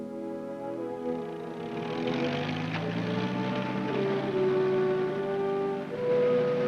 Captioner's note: Jeep engine rumbling